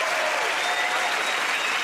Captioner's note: cheers and applause